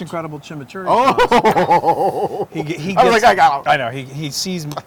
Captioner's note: laugh